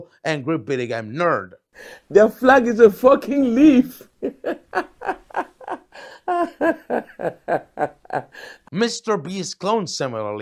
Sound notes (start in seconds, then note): 7.8 laughs